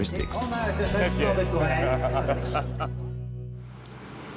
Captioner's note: laughs